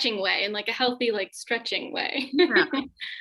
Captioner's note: laughs